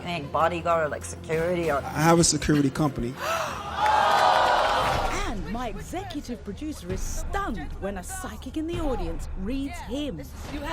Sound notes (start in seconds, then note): 3.7 audience yelling